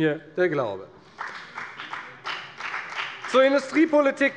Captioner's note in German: Beifall bei der FDP